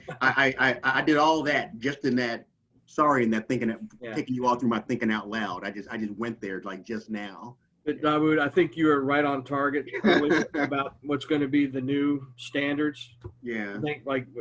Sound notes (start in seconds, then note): 9.8 laughing